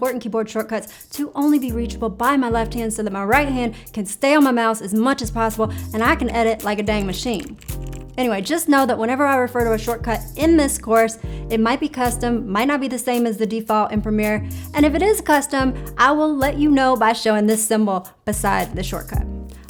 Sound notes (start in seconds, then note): 6.1 keyboards clicking